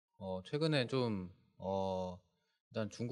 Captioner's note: speaking korean